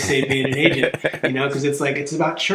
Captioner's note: laughing